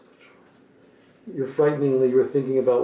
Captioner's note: whispers